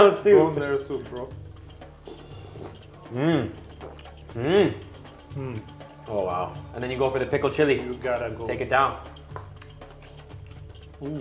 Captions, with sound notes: - The bone marrow soup. - Bone marrow soup, bro. (slurping) - Mm, oh wow. And then you go for the pickled chili. - You gotta go. - Take it down.